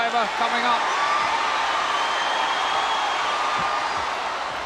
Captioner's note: audience cheers